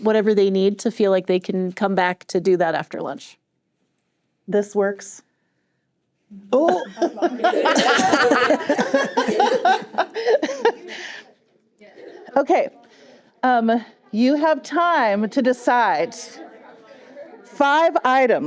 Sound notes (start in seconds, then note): 6.6 laughter